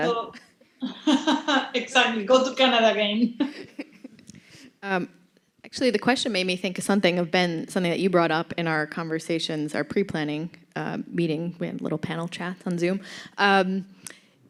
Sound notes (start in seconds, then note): 0.8 laughs; 3.4 laughter